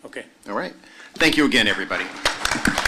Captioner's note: applause